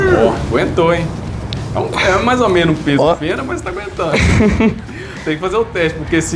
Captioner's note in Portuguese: risadas